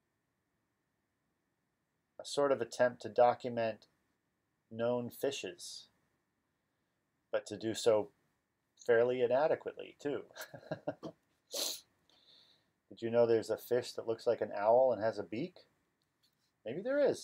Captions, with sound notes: A sort of attempt to document known fishes. But to do so fairly inadequately too. *laugs* *sniffs*. "Did you know that theirs a fish that looks like an owl and has a beak?".. maybe there is??..